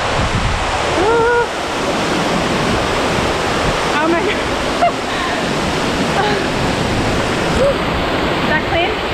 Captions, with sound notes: Whoa, oh my god. (laughter) (water splashing) Woo, that clean?